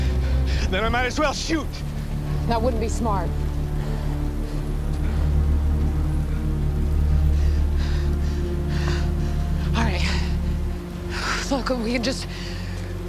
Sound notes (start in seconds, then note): 6.7 breathing heavily